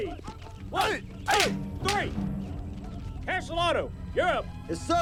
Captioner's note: sticks clacking